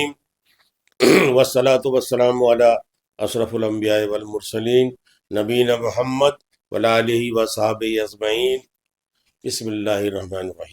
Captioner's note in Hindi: गला साफ़ करने की आवाज़